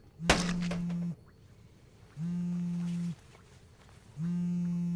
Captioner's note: cellphone vibrating